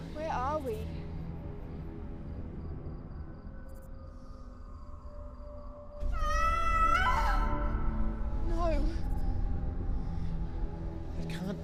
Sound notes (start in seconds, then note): 1.3 crickets chirping; 1.3 tense music; 6.0 Mia screams